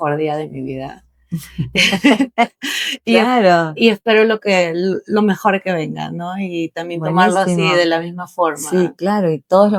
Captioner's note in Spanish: risas